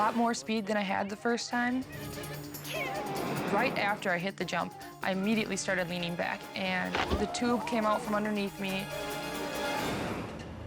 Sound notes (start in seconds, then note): 7.1 screaming; 8.9 suspenseful music